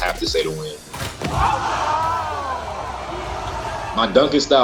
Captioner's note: crowd cheering